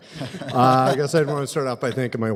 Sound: laughter

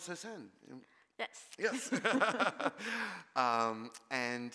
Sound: laughs

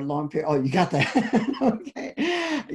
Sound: laughs

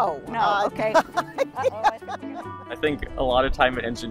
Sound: laughs

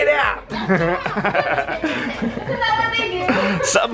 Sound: all laughing

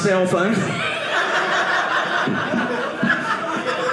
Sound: audience laughing

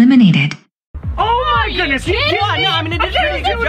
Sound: all yelling

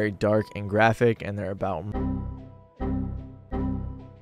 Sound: beep

